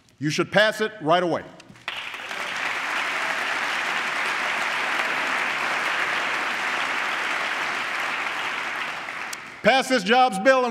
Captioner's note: applause